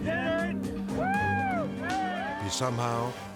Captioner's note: cheers